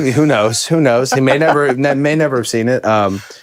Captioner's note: Finn laughs